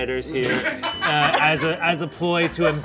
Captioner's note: writers laughing